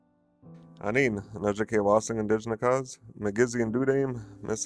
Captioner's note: gentle music; speaking Ojibwe